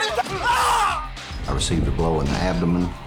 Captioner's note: yelling